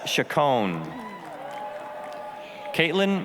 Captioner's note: applause, cheering